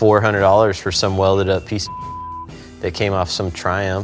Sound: beep

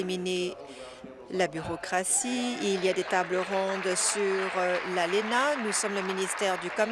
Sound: applause

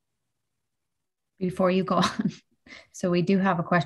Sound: chuckles

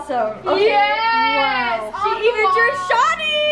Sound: shouts

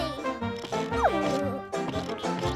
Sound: giggling

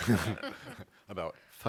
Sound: laughter

